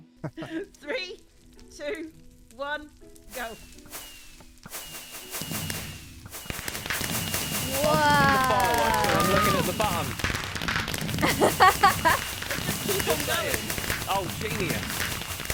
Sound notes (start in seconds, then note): 11.2 laughs